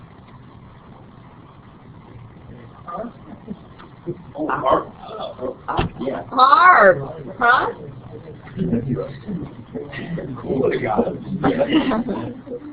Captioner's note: laughing